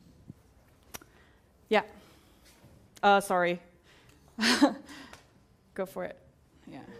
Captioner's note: laugh